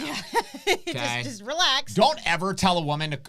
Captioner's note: laughs